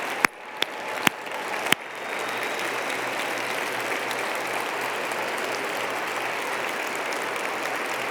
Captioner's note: applause